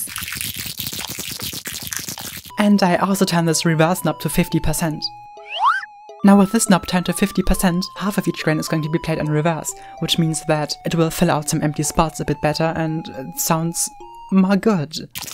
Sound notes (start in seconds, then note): 0.0 crackling sound; 5.4 comedic sound effect